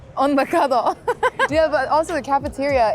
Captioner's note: laughing